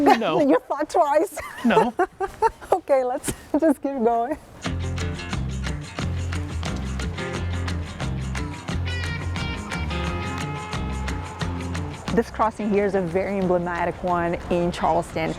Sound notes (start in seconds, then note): 1.4 laughs